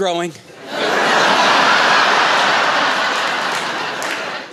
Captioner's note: laughter